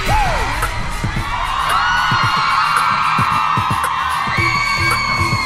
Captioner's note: cheering